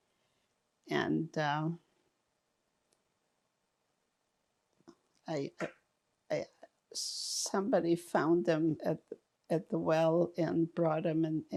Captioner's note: pauses 6 seconds